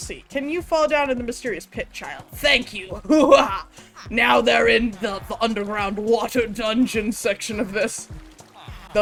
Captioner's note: evil laugh